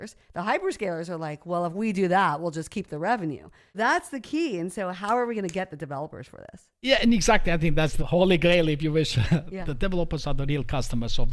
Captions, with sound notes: The hyperscalers are like, "Well, if we do that, we'll just keep the revenue." That's the key. And so how are we going to get the developers for this? - Yeah, and exactly. I think that's the holy grail, if you wish. (laughs) The developers are the real customers